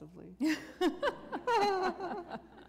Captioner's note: laughter